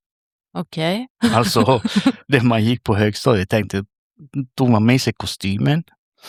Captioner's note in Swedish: skratt